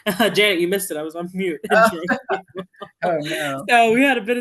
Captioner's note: laughs